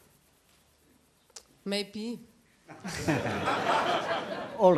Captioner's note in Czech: smích